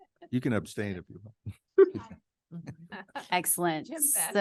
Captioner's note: laughs